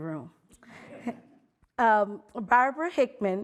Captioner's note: audience laughing